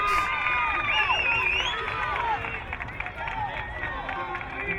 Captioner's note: crowd cheering